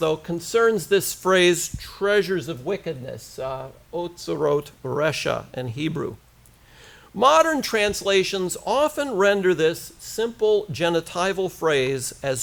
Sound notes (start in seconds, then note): 4.0 hebrew